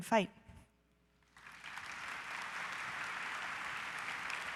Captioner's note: audience applause